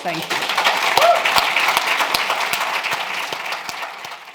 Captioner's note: applause